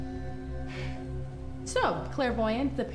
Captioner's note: Claire sighs